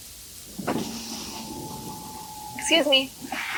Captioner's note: window winding down